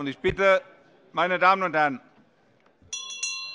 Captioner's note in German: Anhaltende Unruhe - Glockenzeichen